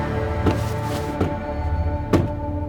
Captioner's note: curtains stop; chair stops; door slam